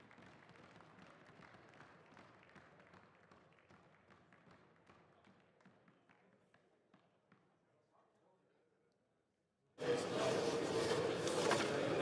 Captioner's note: applause